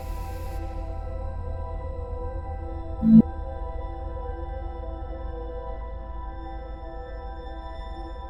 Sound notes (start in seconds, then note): 0.0 eerie atmospheric music; 3.0 device beeping; 4.4 eerie atmospheric music